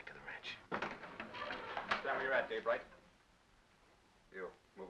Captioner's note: door bursts open